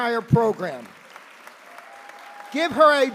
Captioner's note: applause